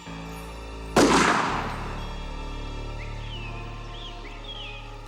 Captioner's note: gun firing